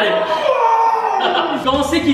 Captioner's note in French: rire